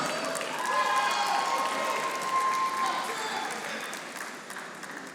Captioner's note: audience applauding